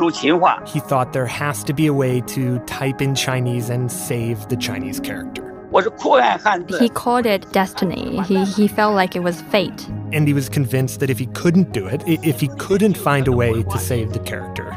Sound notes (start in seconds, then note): 0.0 speaking Mandarin; 6.2 speaking Mandarin